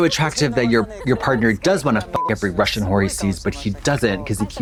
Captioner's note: beep